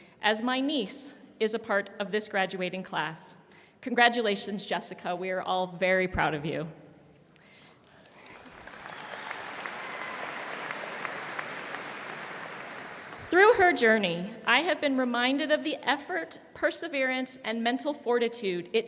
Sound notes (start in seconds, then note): 7.8 audience applauding